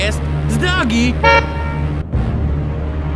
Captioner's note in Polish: klakson